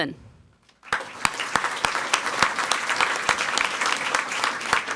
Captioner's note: people clapping